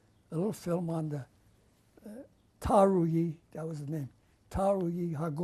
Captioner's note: non-english